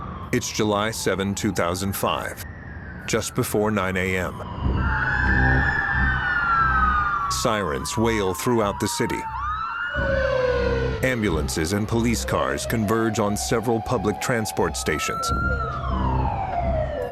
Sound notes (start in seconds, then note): 4.6 sirens blaring